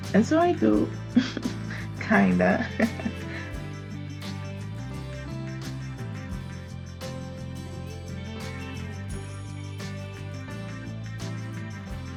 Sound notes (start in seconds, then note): 1.1 chuckles